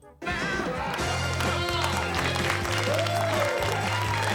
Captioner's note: students cheering